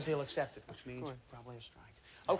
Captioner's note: whispers